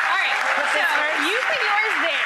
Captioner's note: audience applauds